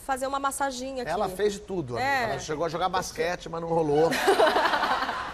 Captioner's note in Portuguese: risos